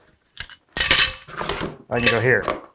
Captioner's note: metal clangs